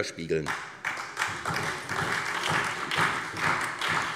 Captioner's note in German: Beifall SPD